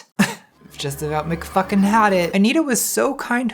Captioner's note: scoffing